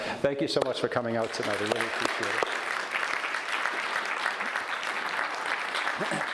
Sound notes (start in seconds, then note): 1.1 audience applauds